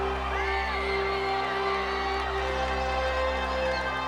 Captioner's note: crowd cheering